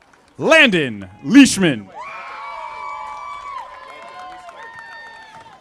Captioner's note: audience applauding; audience applauding